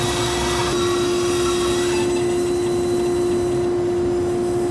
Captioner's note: saw whirring